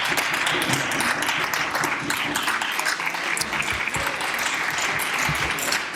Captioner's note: some Applause